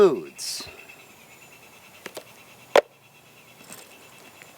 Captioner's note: birds chirping